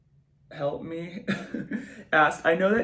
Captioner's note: giggles